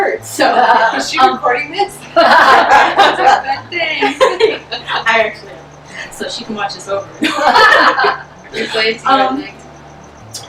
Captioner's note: more laughter; laughs and nods; laughter